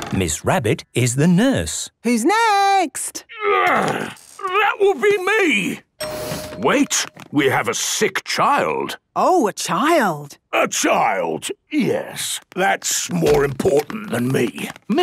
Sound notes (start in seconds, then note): 6.0 door dings open